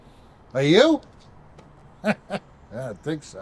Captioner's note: laughs